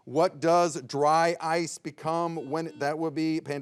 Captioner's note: bell chimes